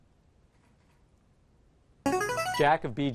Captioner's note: answer bell